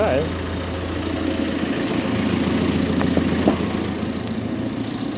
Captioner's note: telehandler rumbles